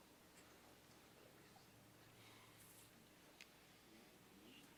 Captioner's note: none